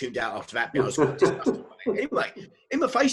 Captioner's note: laughs